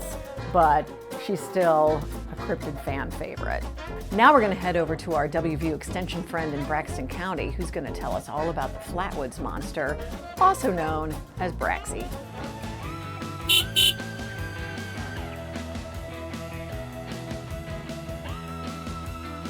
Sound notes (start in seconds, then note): 13.4 car honking; 13.4 upbeat rock music